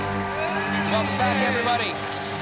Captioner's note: applause